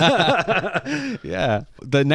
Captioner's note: laughing